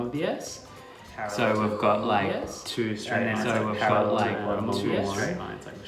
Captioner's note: repeating, overlapped and echoing